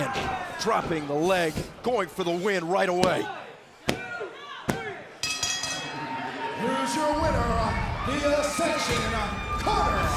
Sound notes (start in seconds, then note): 2.5 crowd chatter; 5.2 bell ringing